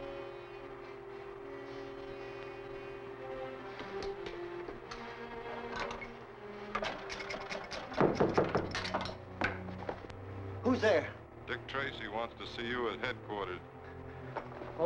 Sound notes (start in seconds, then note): 6.7 The Claw knocking; 6.9 ice pick tapping; 9.6 ominous music